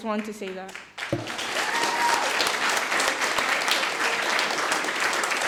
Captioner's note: audience applauding